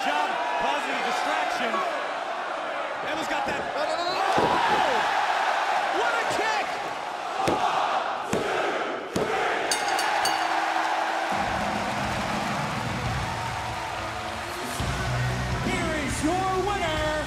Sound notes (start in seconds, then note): 7.0 crowd cheering; 9.7 bell ringing